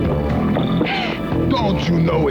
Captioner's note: gasps